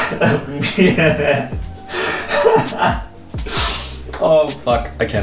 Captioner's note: laughing uncontrollably